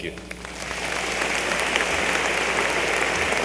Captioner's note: applause